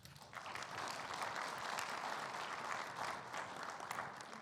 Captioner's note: audience applauding